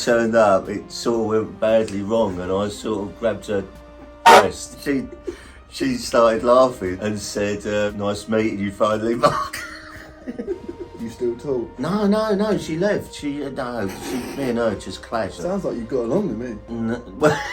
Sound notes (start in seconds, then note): 4.0 honk; 9.2 laughs; 17.2 both laughing